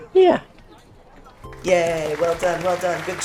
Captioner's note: applause